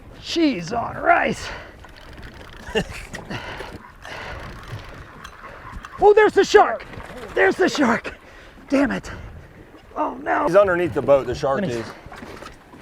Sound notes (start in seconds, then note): 2.6 laughs